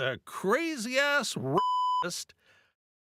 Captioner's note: beep